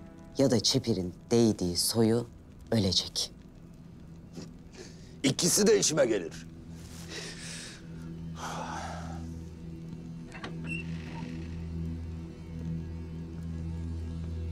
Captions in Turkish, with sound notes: ...ya da çeperin değdiği soyu ölecek. İkisi de işime gelir. [Derin nefes alıyor] [Kapı açılma sesi]